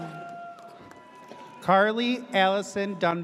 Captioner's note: audience cheers